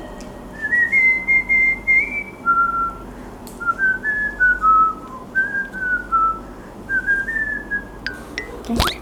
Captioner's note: whistling